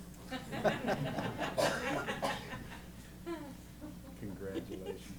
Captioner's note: laughter